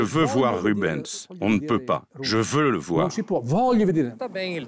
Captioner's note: Italian spoken audio